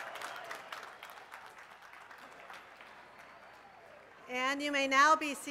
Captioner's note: cheers and applause